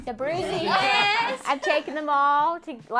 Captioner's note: all laugh